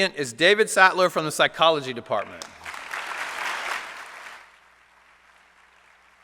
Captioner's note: applause